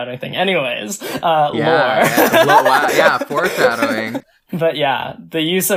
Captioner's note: laughs